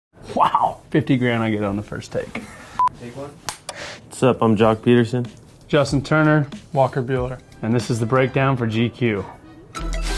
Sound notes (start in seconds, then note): 3.6 clapperboard shutting